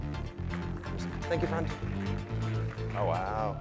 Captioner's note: crowd claps